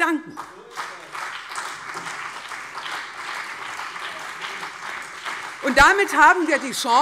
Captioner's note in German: Beifall CDU und BÜNDNIS 90/DIE GRÜNEN